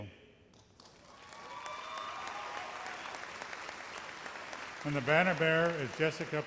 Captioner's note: audience applauds